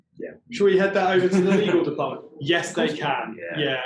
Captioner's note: chattering